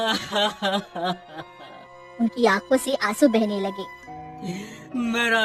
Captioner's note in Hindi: हंसी